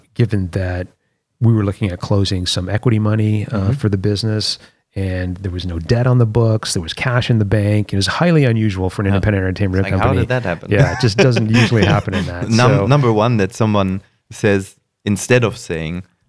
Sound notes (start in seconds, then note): 10.7 laughter